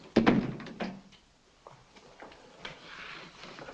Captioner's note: door thuds shut